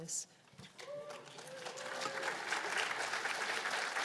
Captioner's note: applause